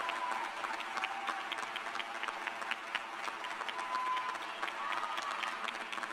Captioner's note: applause